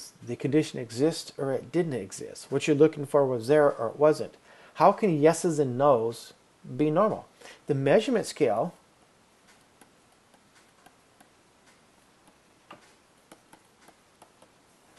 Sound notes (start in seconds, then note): 8.7 clicking